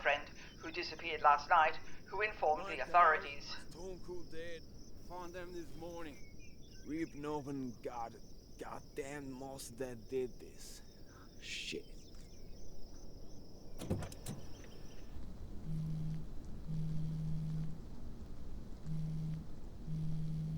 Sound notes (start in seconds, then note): 13.7 car door clicking; 15.5 cellphone buzzing